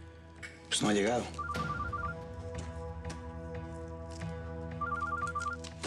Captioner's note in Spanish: suena celular